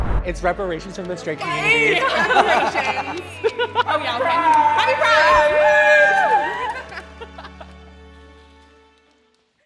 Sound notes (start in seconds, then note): 1.8 everyone laughs; 6.3 everyone cheers and laughs